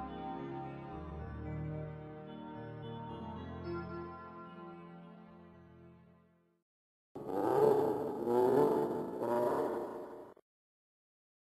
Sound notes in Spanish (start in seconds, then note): 7.2 Risa tenebrosa inquietante